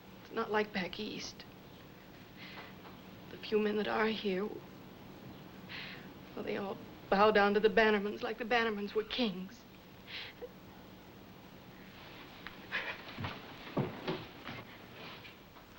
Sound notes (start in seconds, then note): 10.0 sobs